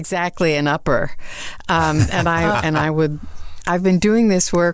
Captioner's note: all laugh